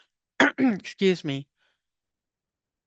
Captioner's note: clears throat